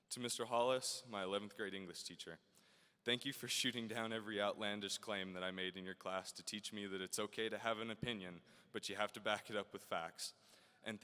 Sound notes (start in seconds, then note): none